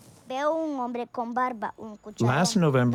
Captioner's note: speaking Spanish